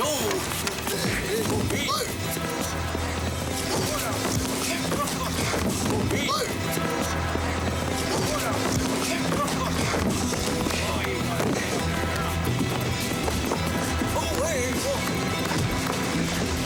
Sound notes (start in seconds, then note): 0.1 men chattering; 0.8 gasping; 3.8 thudding; 7.9 grunting; 14.3 wailing